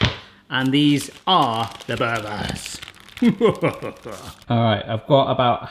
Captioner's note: sinister laughing